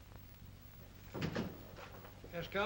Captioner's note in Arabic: يغلق الباب